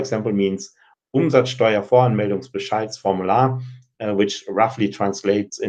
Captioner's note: speaking German